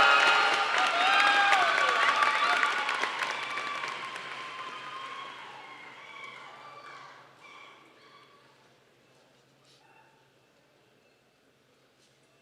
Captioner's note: applause